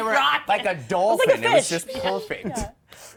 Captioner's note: laughter